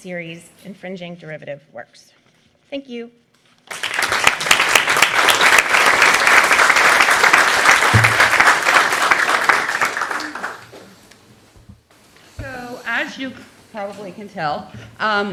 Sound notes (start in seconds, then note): 3.6 applause